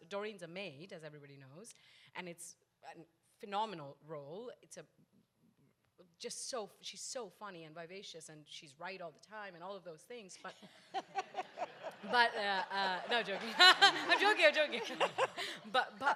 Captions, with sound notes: Dorine's a maid, as everybody knows. And it's phenomenal role. She's so funny and vivacious and she's right all the time and all of those things but. (audience laughs) No I'm joking. (laughs) I'm joking, I'm joking!